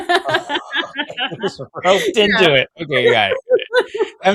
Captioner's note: laughs